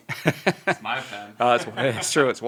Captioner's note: laughs